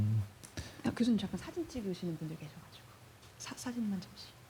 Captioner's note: speaking korean